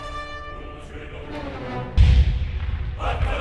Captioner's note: cannon fire